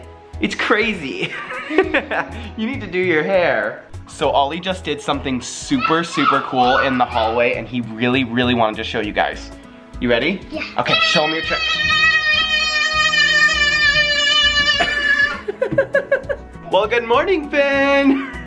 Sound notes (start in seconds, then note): 1.2 laughs; 12.9 yelling out; 14.9 laughs; 18.0 laughs